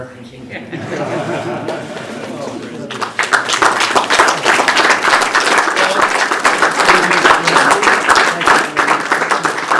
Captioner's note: laughter and applause